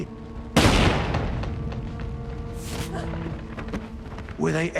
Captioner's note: gun firing